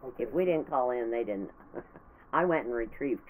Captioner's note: laughing